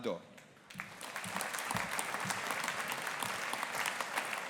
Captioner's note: audience applauding